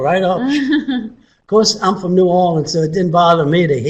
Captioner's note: chuckles